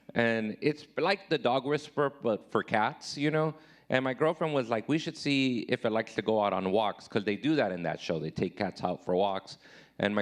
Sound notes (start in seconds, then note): none